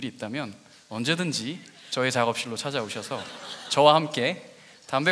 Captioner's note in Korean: 웃음